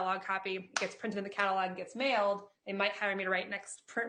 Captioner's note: claps